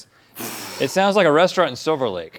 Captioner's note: blows outward